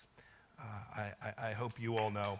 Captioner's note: applause